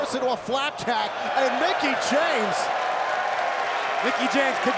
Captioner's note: crowd cheering